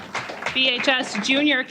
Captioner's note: applause